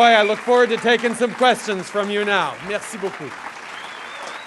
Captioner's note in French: Acclamations et applaudissements